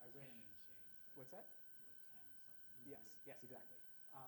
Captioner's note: student faintly speaking